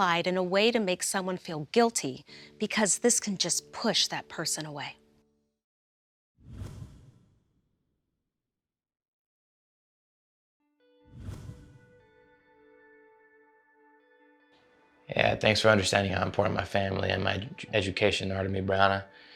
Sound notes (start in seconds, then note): 6.4 slight swoosh sound; 11.1 slight swoosh sound; 11.4 gentle music